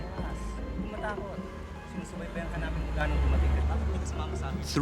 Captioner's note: non-english speech